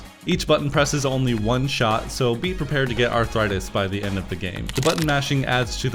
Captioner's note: bone crunch